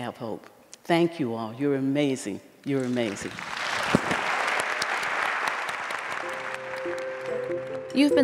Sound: applause

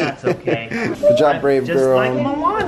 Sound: laughing

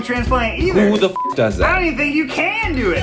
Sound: beep

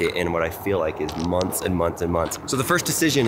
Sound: none

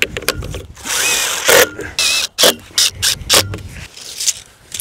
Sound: drill buzzing

